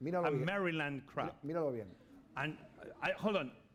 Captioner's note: speaking spanish